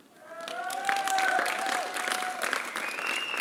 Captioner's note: applause